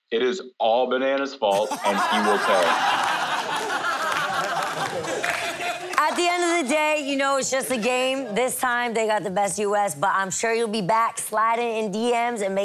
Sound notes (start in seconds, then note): 1.5 all laugh loudly